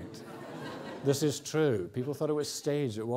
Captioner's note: audience laughs